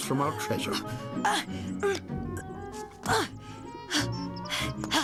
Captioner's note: grunting